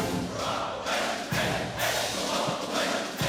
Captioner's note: chants